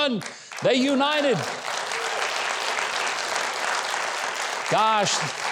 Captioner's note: audience applauding